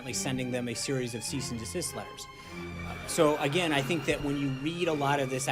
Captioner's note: laugh track